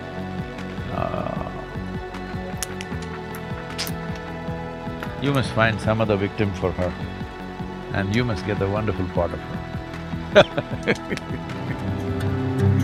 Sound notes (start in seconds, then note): 10.3 laughs